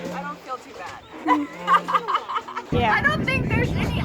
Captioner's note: laughs